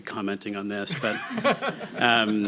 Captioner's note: laughter